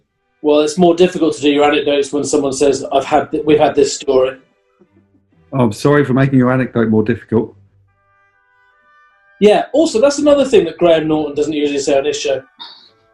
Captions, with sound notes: Well, it's more difficult to do your anecdotes when someone says "We've had this story". [SARCASTICALLY] Oh, sorry for making your anecdote more difficult. Yeah, also – that's another thing that Graham Norton doesn't usually say on his show.